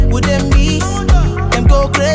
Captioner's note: non-english